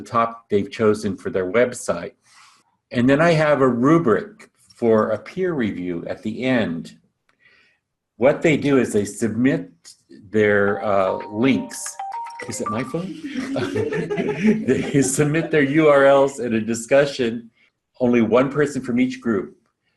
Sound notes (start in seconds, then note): 10.7 phone ringing; 12.9 laughing